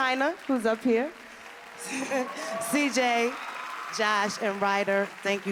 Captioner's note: laughs